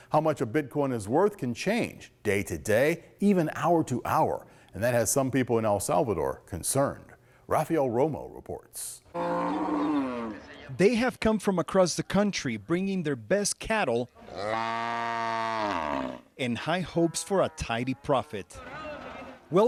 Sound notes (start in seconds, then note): 9.1 cows mooing; 14.2 cow moos